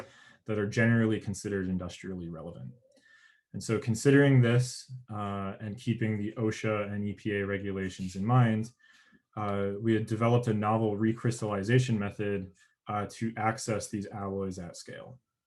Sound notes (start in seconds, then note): none